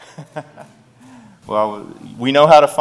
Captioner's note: laughter